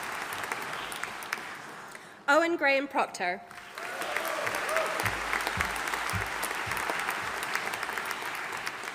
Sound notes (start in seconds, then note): 3.5 audience applauding